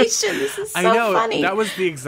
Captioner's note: laughs